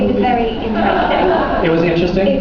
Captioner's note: laughs